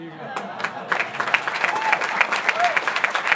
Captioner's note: applause